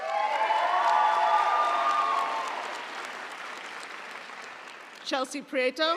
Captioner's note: audience cheering; audience applauding